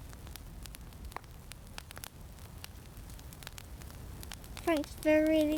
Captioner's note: fire crackling